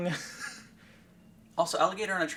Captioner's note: laughing